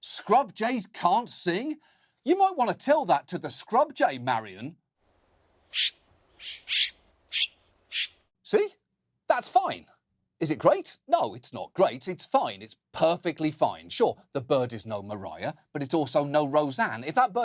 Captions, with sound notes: "scrub jays can't sing"? You might want to tell that to the scrub jay, Marion. (SCRUB JAY CHIRPS) See? That's fine. Is it great? No, it's not great, it's fine, it's perfectly fine. Sure, the bird is no Mariah, but it's also no Roseanne.